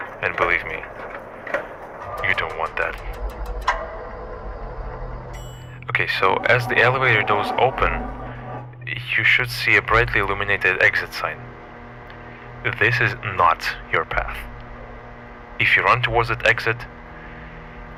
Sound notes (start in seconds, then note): 3.4 elevator stops; 5.1 elevator chime